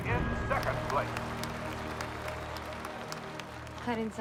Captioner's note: audience applauding